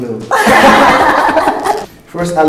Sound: laughs

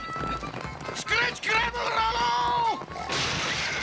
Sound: stammers

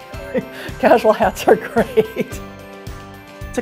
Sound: chuckling

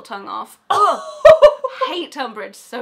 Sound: laughing

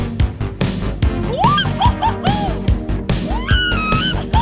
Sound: shouting

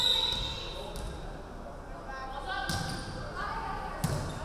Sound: referee whistling

